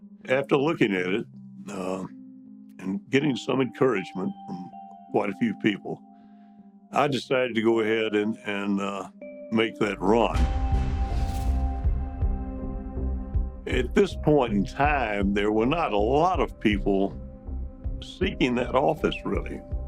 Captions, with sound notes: After looking at it and getting some encouragement from quite a few people, I decided to go ahead and make that run. (suspenseful music) (graphic whooshes) At this point in time, there were not a lot of people seeking that office, really.